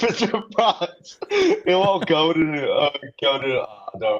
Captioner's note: laughter